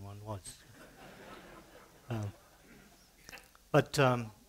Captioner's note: laughter